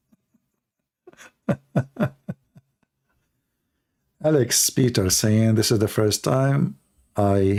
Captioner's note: Ketawa